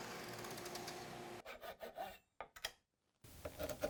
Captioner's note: high-pitched sawing; quiet sawing; wood scraping